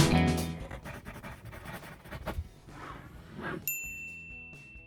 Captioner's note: pencil scribbling